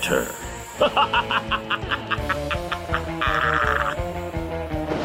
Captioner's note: maniacal laughter